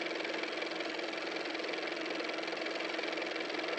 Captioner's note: car motor